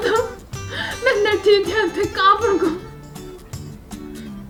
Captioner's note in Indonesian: tertawa